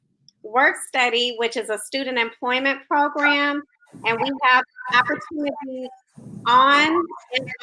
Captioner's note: technical glitch